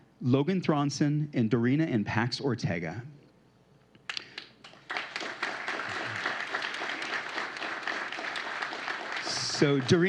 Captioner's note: applause